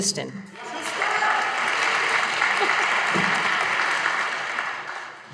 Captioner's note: audience applauding